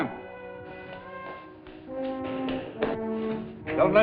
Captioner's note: hurried footsteps